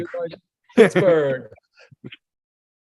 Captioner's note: laughter